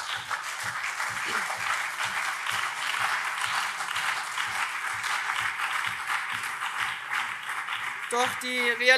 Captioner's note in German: Lebhafter Beifall CDU, SPD, BÜNDNIS 90/DIE GRÜNEN und Freie Demokraten